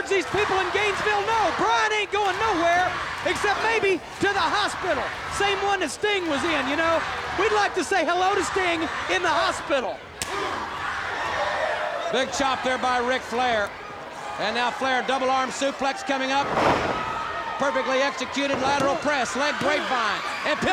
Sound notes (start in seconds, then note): 10.2 blow thudding; 16.4 body thudding